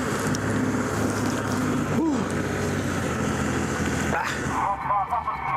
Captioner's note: boat motor roaring